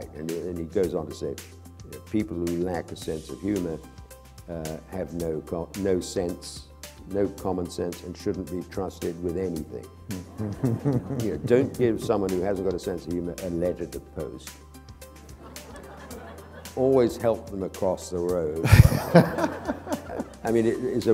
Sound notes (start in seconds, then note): 10.1 chuckle; 15.5 laughter